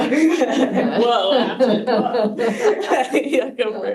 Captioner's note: laughing; laughs